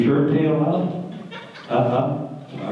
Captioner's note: laughter